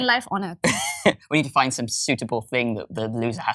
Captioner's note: laughs